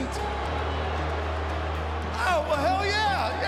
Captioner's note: crowd booing